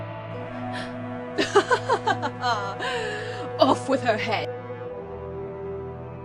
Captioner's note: laughs